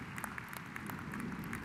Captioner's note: applause